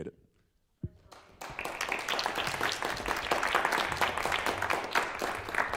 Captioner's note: applause